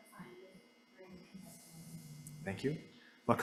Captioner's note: speaks faintly